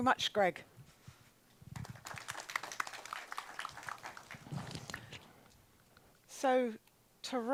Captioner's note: applause